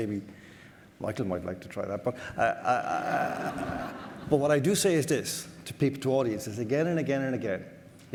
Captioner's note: audience laughter